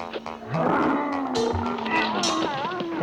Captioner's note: growling